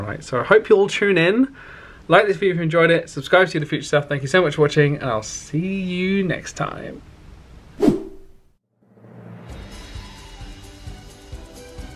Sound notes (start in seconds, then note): 7.8 wind whipping; 9.2 upbeat music